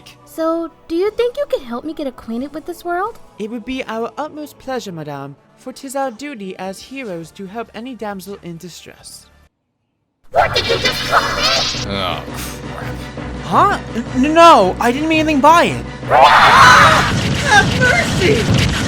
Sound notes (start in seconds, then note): 16.1 angry Roar